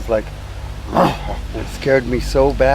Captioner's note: grunting